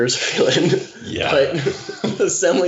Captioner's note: chuckling